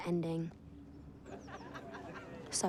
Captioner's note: laughter